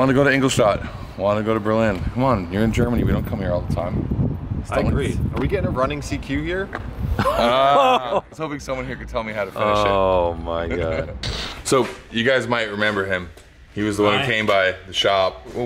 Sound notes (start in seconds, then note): 7.1 laughter